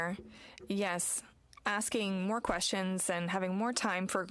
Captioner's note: speaking French